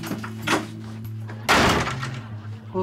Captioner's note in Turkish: Kapı kapanma sesi